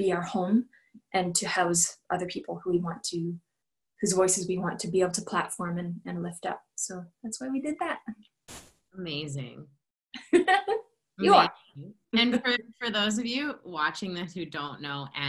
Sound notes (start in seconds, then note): 10.2 laughter